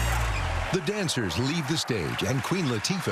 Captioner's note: cheering and applause